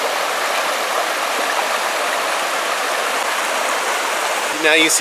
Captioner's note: rushing water